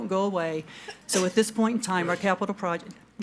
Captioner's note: board member sneezes